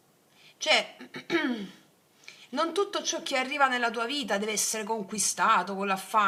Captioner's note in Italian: schiarire la voce